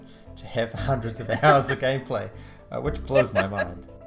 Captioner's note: laughs